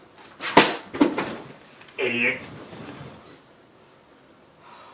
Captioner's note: book clattering